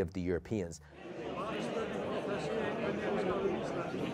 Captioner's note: crowd noise